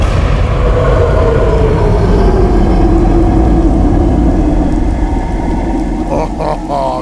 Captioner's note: very deep bellowing roar